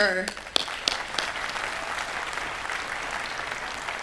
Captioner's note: applause